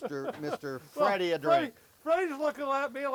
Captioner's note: laughs